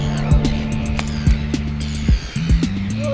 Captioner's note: wet splat